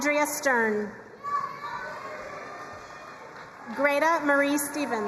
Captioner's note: crowd cheering and applauding